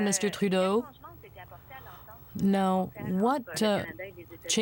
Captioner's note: speaking French